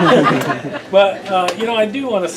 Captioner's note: laughter